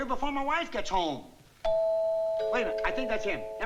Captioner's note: doorbell ringing